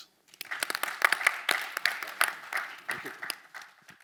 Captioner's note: attendees clapping